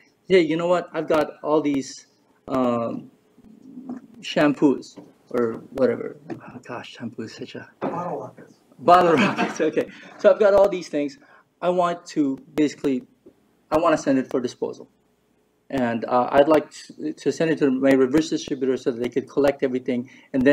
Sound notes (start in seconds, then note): 9.1 laughs